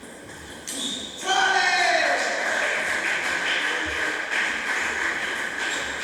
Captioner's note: applause